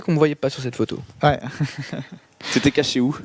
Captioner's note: laugh